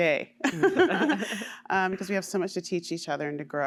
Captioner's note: laughter